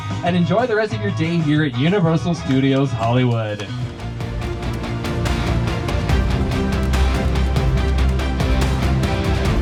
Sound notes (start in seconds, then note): 2.4 passenger claps; 3.7 upbeat music plays